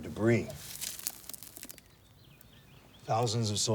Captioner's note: dirt crumbles